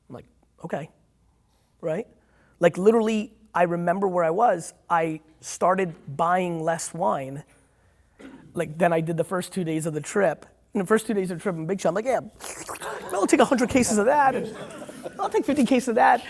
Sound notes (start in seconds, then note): 12.3 slurps